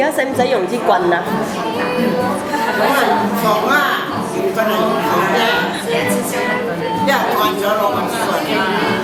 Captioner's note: laughs